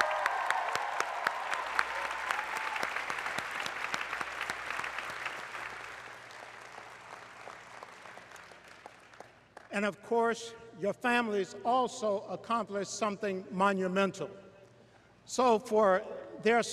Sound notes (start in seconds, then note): 0.0 cheers and applause